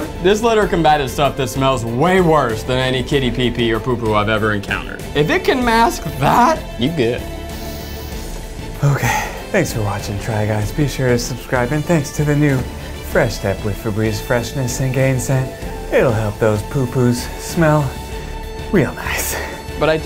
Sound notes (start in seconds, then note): 7.4 sighs; 8.8 sniffs